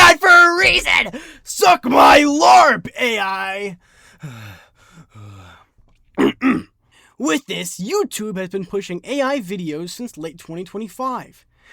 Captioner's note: clears throat